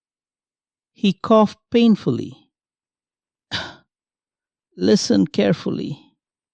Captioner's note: coughs